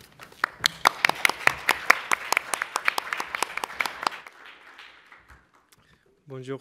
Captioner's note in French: applaudissements